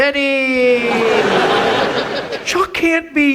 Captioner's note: audience laughs